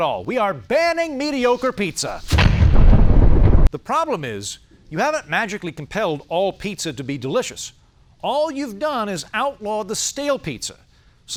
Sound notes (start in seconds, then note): 2.1 explosion